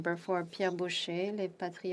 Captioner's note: speaking in French